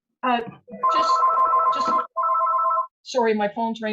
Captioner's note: phone ringing